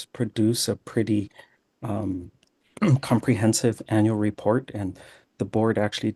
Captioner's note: clears throat